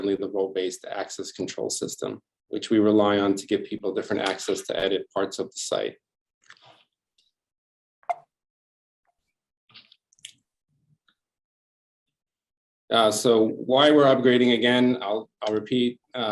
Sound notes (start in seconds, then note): 7.5 computer tone